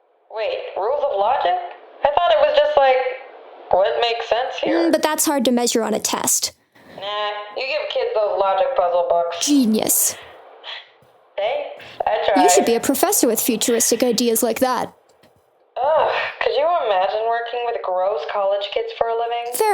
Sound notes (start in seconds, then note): 12.3 laughing